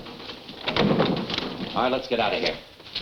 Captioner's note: door slams